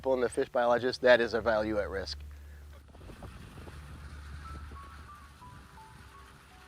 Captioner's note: sound of Car Driving